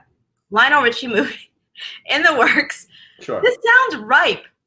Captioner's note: laughs